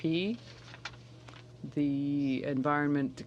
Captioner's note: speaking French